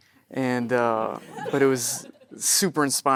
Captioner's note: audience chuckling